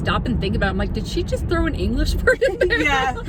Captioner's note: laughs